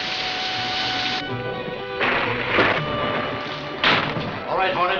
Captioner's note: lightning striking